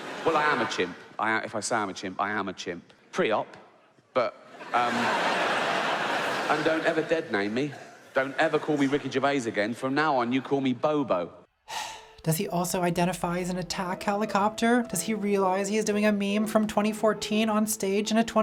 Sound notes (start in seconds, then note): 4.2 audience laughing; 11.6 sighs